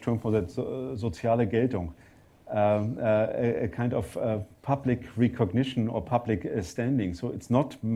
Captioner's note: german